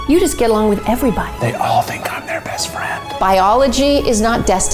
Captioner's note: whispering